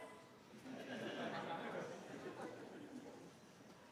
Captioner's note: laughter